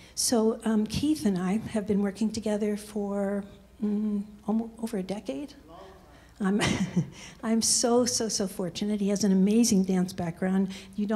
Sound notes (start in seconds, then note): 6.7 laughs